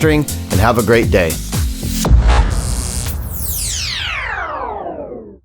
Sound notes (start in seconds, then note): 1.8 electric shock; 3.4 electronic swoosh